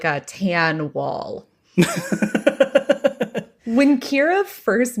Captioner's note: laughs